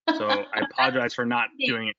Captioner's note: laughs loudly